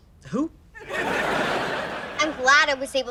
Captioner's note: laughs